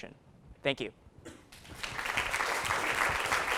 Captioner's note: applause